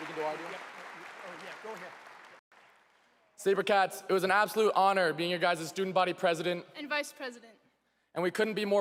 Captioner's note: applause